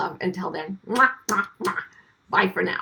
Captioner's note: makes kissing noises